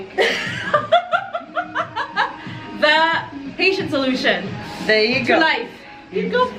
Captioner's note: laughs